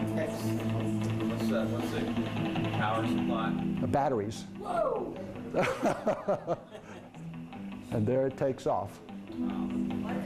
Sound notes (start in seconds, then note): 5.5 laughs